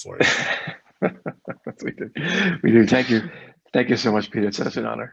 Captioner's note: laughs